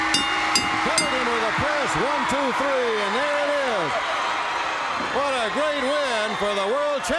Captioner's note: bell ringing